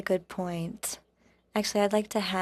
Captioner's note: speaking French